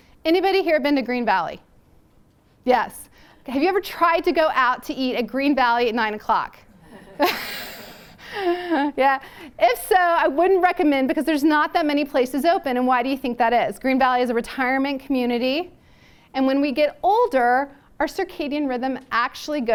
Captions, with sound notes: Anybody here have been to Green Valley? Yes. Have you ever tried to go out to eat at Green Valley at 9 o'clock? [LAUGHTER] Yeah. If so I wouldn't recommend because there's not that many places open. And why do you think that is? Green Valley is a retirement community. And when we get older, our circadian rhythm actually